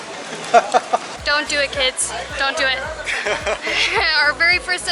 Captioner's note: laughter